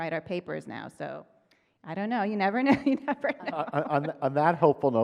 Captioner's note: chuckles